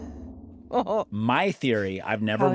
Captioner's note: laughs